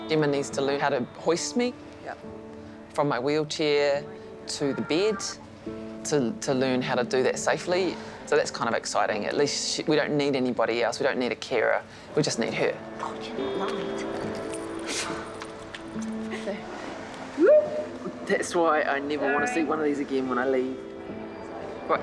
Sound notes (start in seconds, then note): 13.1 whispers; 16.2 chuckles